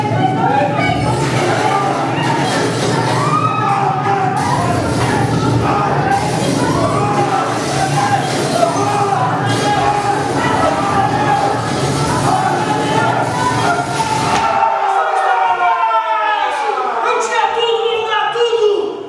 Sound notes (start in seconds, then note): 7.9 screaming; 16.2 they all scream